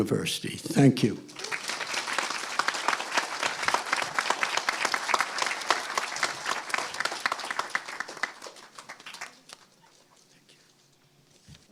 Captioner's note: applause